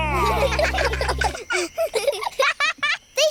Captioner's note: children giggle